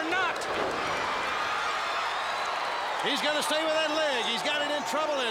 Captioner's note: crowd cheering